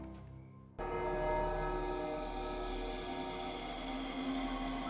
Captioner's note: church bell ringing